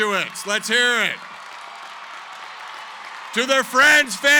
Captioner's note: cheering, applause